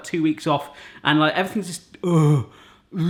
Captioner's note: grunting